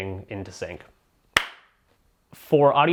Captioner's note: claps